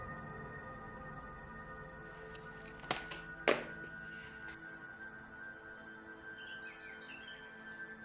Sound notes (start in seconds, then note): 4.4 birds chirping